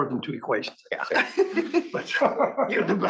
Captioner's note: laugh